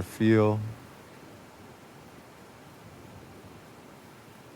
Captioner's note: trees rustling